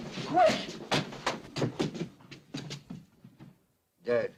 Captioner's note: feet scrambling